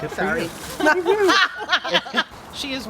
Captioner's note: laughter